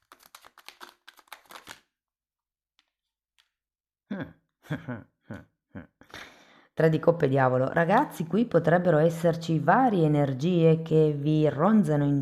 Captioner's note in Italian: risate